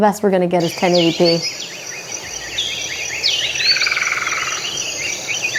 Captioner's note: birds chirping